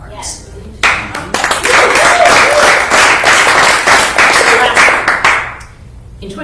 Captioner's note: applause